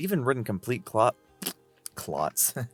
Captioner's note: spit